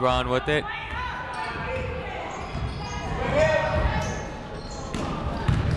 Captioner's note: people shouting in the crowd